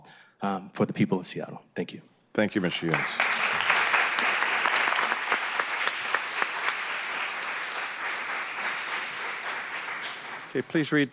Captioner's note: applause